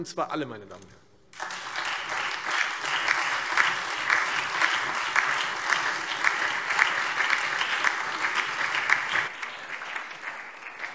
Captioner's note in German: Beifall Freie Demokraten, SPD, DIE LINKE und vereinzelt AfD